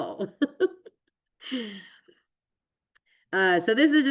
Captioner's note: laughs